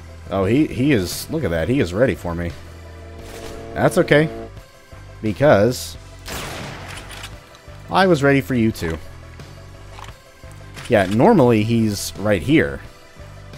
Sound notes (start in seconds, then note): 3.6 Railgun chargeup; 6.3 bam